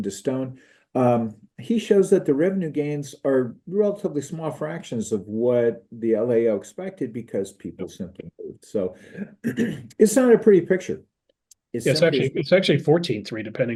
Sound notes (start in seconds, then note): 9.0 cough